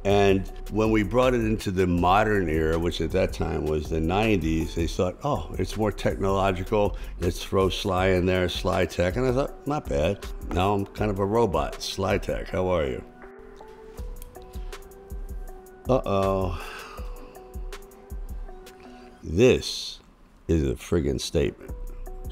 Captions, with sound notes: And when we brought it into the modern era, which at that time was the '90s, they thought, "Oh, it's more technological. Let's throw Sly in there, Slytech." And I thought, "Not bad." Now I'm kind of a robot. Slytech, how are you? (light music) Uh-oh. (sighs) This is a frigging statement.